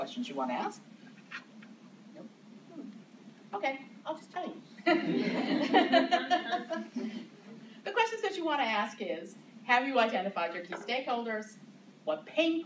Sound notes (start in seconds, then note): 4.8 laughter